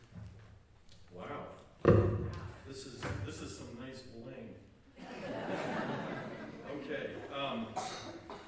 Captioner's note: laughter